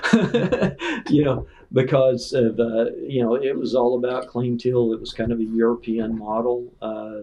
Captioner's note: laughter